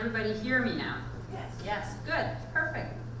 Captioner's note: voiceover